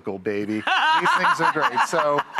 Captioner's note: Rachael laughs